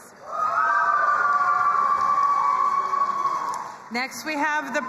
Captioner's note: crowd cheering and applauding